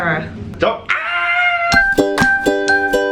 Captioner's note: screams